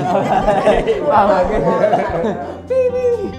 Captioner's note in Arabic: يضحك